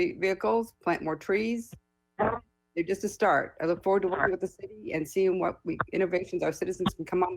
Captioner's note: ~interference~; ~interference~